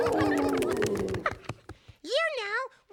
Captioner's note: roaring; hooting